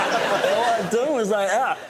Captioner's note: laughter